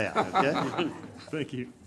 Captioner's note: everyone laughs